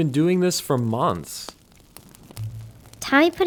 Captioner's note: fire crackling; suspenseful music